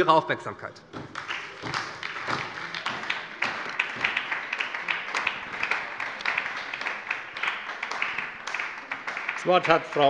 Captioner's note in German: Beifall bei der SPD